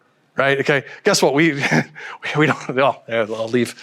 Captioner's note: chuckles